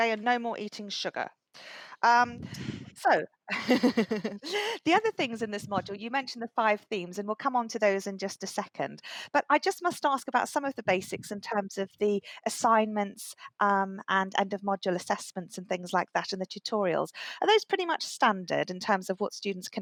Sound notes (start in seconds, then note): 3.5 laughter